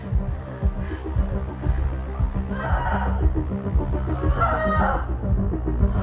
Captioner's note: giving birth screams